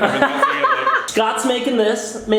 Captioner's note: laughs